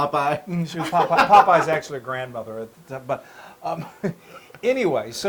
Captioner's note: laugh